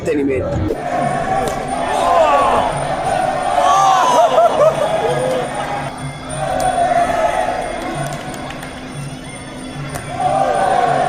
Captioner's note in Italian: Applauso